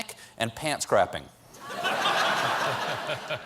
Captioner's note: laughter